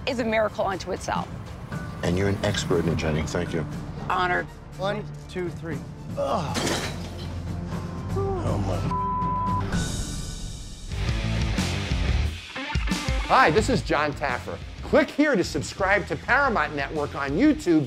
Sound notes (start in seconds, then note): 8.9 beep; 11.0 rock music